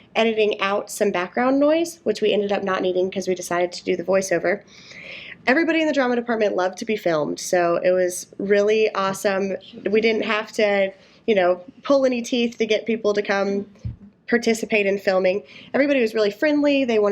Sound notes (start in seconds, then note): none